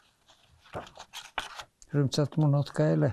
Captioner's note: hebrew